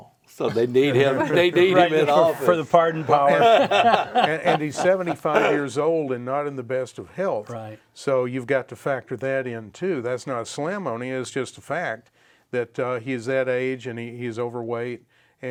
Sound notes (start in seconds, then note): 3.6 all laugh